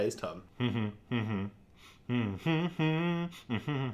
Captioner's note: humming